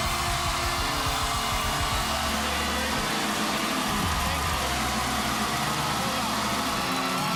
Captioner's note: cheers and applause